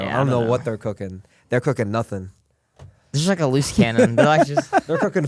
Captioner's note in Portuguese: risos